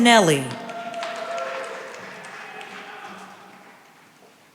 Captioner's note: cheering and applause